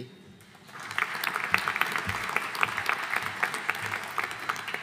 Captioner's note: audience applauding